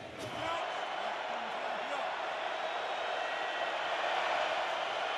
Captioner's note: crowd cheering